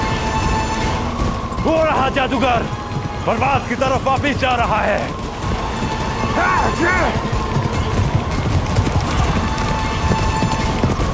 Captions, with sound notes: There is the magician! He's going back towards Parwaz. [grunting] [horse galloping]